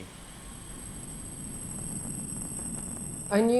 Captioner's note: clicking repeating sounds